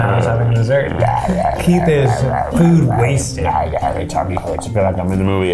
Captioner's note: growling